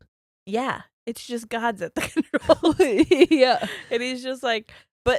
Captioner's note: giggles